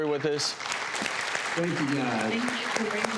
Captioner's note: audience applause